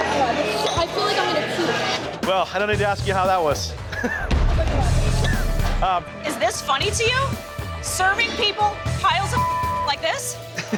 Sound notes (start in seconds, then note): 3.8 chuckles